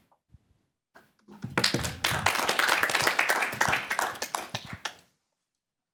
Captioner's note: applause